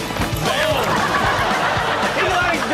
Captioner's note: audience laughs; Chanel laughs